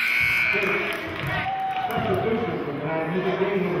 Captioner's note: buzzer sounding